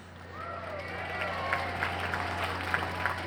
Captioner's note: cheering and applause